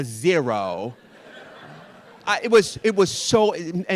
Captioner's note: audience laughing